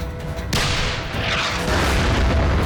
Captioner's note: turret firing; shell exploding